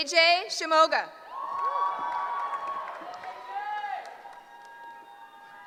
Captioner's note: cheering